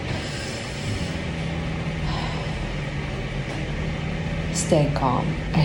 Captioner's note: inhales and exhales